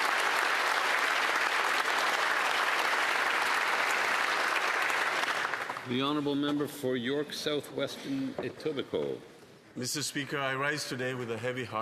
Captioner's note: applause